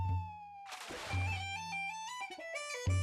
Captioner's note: water splashing